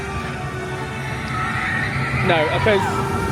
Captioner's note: riders screaming